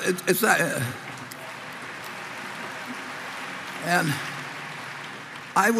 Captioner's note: Applause; 掌聲